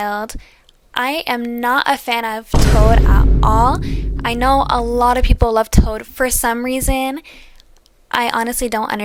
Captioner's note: boom